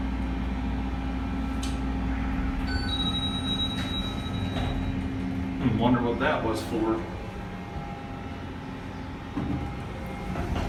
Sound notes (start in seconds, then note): 2.4 elevator Chimes Weirdly